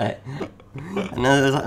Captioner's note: chuckling